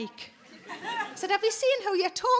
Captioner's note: audience laughing